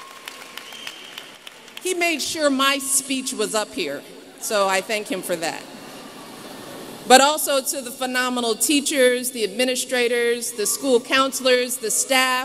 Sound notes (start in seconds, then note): 0.0 applause; 6.3 laughter